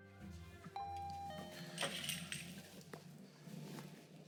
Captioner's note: door chiming